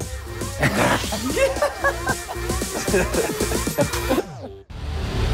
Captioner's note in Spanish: Risas